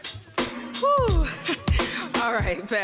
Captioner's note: laughs